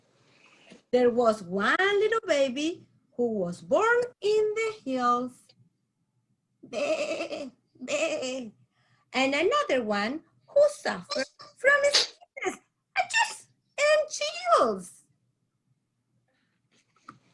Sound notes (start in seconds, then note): 6.7 goat sounds; 11.8 achoo!